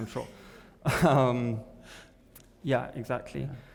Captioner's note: both chuckling